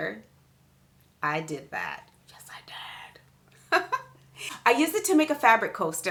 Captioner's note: chuckles